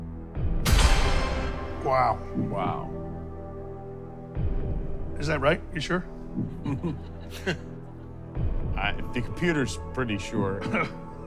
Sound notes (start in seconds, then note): 6.5 laughter; 11.0 laughs